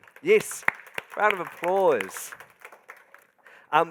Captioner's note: crowd applauding